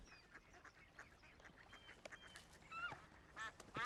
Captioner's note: geese honking